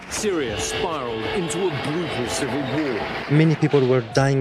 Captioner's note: sounds of war